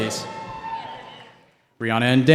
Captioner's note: cheering